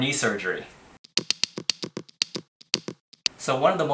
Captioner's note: tapping beats